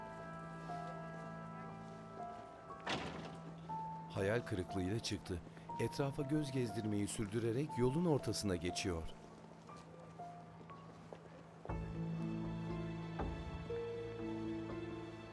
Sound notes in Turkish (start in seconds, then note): 0.0 Müzik - Gerilim; 2.8 Kapı kapanma sesi; 5.2 Ayak sesleri